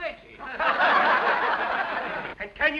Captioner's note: laughter